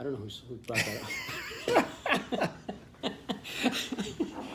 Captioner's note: laughter